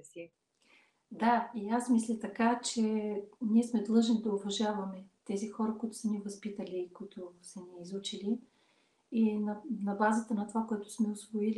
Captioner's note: foreign Language followed by English Interpreter